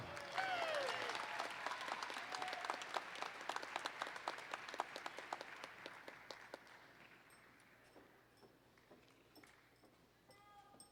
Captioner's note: applause